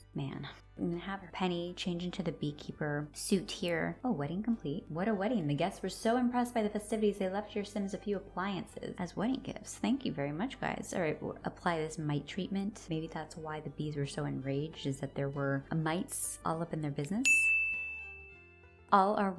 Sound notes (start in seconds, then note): 17.2 chime sound effect